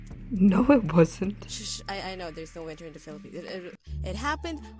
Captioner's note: mumbling